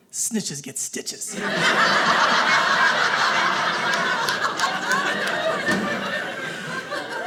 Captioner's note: audience laughing